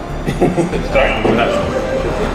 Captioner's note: man laughing